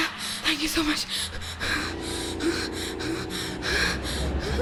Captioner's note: gasps